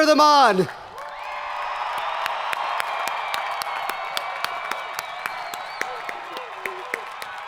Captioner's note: people cheering; hands clapping